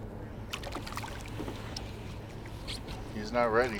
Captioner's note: fish splashing